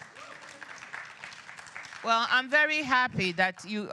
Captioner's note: applause